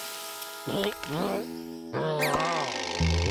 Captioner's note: groans; gagging